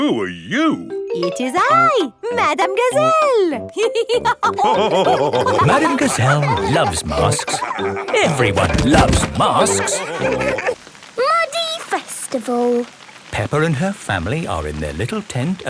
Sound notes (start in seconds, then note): 3.8 all laughing